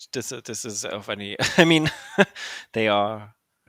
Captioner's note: laughing